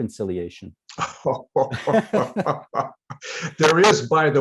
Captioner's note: laughter